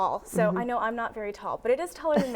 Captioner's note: chuckles